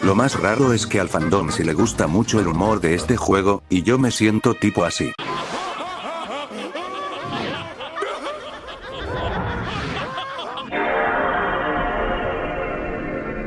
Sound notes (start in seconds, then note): 5.0 laughs; 10.7 cosmic sound of the PlayStation 2